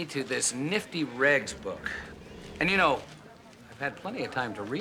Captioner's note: laughs